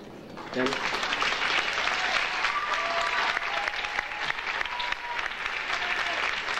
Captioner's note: audience applauding and cheering